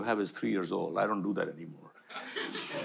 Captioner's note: audience laughter